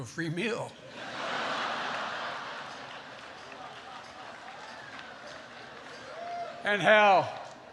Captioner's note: laughter